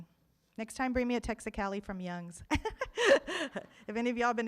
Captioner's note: laughs